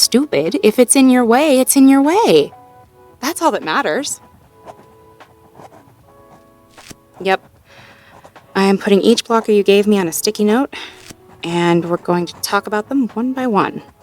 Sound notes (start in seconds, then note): 5.1 writing sounds, sticky note peels